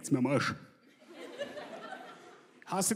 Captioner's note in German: Gelächter